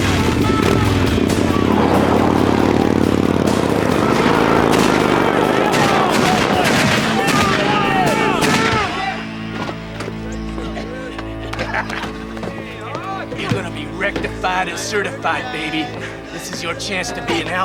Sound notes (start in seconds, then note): 0.1 motorcycle revs; 3.5 gunshots; 10.5 laughs